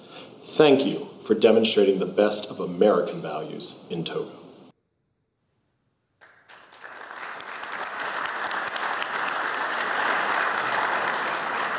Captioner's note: applause